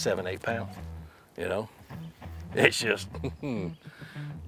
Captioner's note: laughs